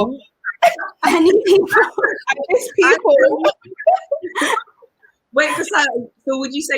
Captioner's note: laughs; all laugh